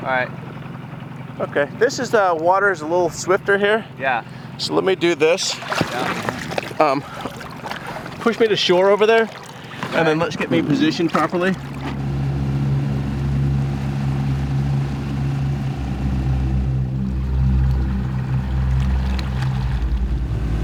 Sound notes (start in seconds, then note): 11.7 tense music; 11.9 boat motor hums